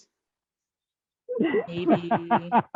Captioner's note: laughs